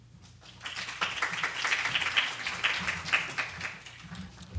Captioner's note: applause